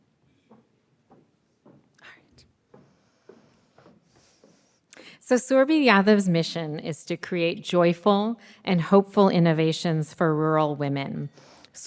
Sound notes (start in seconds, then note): none